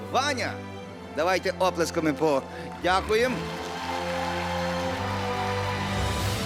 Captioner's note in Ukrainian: оплески